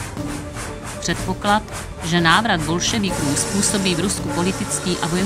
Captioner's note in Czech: houkání vlaku